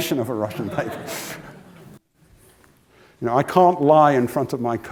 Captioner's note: laugh